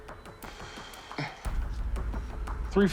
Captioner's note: sighs